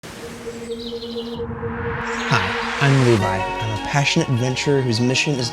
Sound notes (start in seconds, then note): 0.0 birds chirping; 2.1 calm music